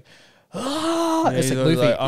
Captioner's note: gasps